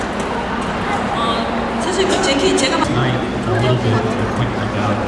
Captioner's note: speaking Korean